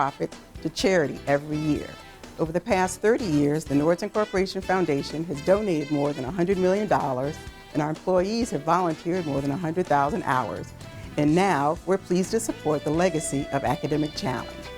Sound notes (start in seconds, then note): none